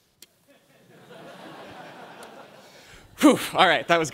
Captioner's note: laughter